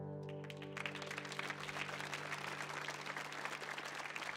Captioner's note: audience applauds